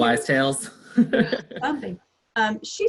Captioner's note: laughs